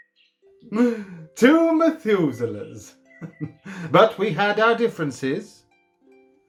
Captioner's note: chuckling